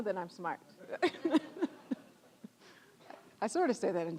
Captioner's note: all laughing